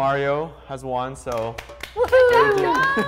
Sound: clapping

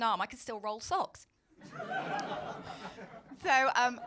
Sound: laughter

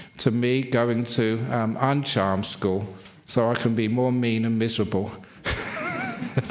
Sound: laughs

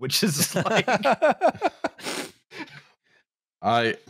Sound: laughs in ascending scale

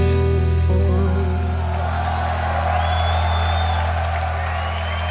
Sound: audience cheering

